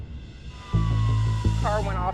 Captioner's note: suspenseful music; sirens wailing